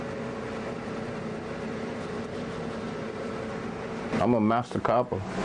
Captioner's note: machines whirring